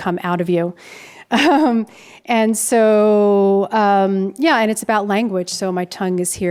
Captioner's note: chuckles